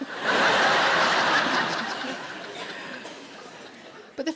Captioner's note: audience laughs